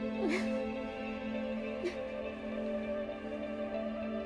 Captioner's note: Rachel crying